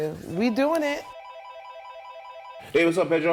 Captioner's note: phone rings